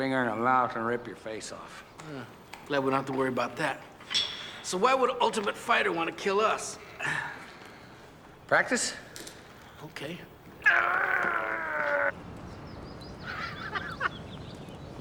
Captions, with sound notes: Hooking is when they stick their finger in your mouth and rip your face off. Ah. Glad we don't have to worry about that. So why would an ultimate fighter want to kill us? Practice? Okay. (grunting) (Bridges laughing)